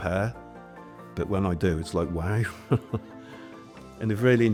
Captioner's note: laughs